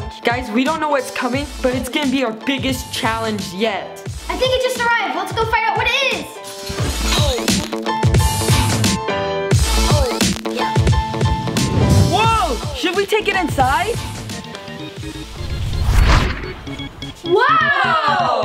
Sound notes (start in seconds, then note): 6.6 upbeat music; 14.1 baseball music; 15.2 whoosh